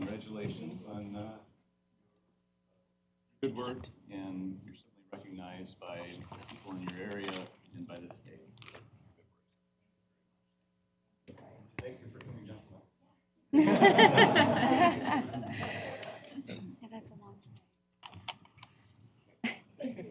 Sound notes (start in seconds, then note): 13.5 laughter